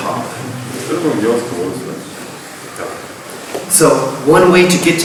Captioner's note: speaking in a foreign language